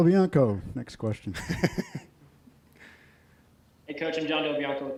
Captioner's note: laughs